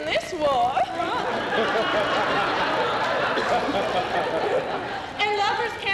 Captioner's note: laughter